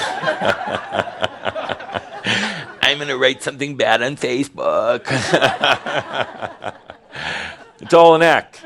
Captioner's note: laughter